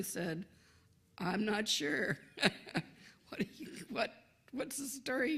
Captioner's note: laughs